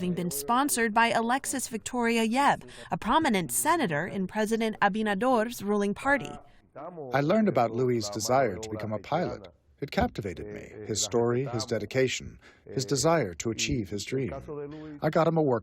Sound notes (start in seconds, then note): 7.7 through translator